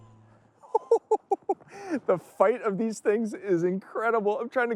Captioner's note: chuckles